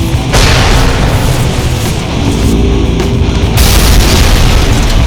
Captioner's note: explosion booms; ground crashes